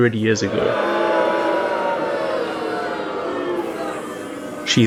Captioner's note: booing